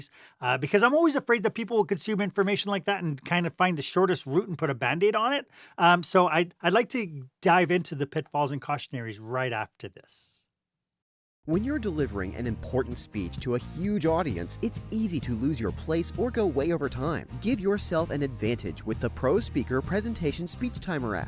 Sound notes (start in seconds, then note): 11.2 voiceover